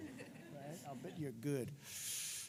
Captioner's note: laughter